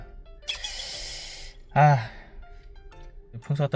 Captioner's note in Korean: 긴장 + 금식의 여파로 계속 나오는 한숨